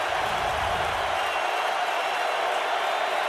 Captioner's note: crowd cheering